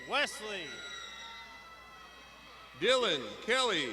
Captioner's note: graduands shouting